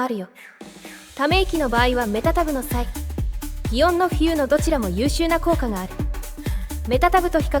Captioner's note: sigh; phew